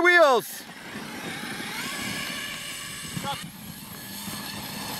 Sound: RC truck wheels spinning

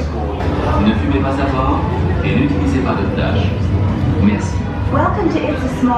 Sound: announcer speaking French

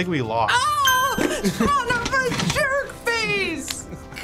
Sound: ding!

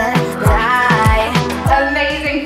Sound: beeping

